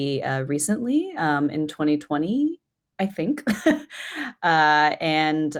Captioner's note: chuckles